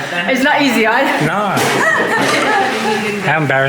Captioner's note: haha